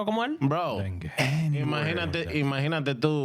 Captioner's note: speaking In Foreign Language